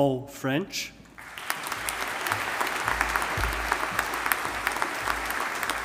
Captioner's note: audience applauding